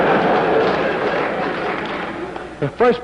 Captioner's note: laughter